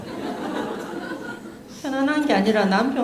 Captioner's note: audience Laughter